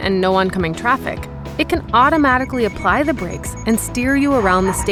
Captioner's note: beeping